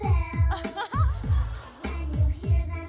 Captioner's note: laughs